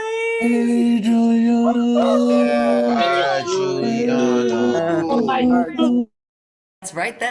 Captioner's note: cheering